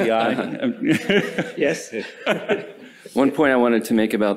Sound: laughter

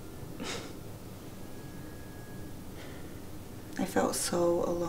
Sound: Sylke scoffs

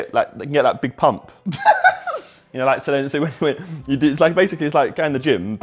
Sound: JJ laughing

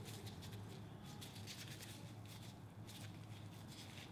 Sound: gloves rustling

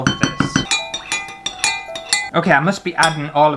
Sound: glass tapping

